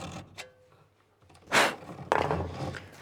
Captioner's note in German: Pusten